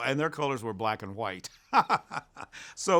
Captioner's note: laughs